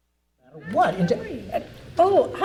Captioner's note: panel chattering